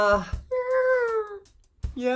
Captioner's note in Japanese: 高い声で